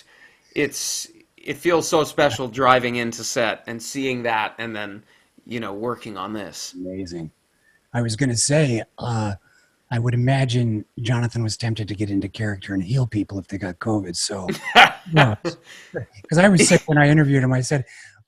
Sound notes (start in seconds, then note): 14.1 laughs